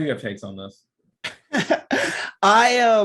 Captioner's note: laughing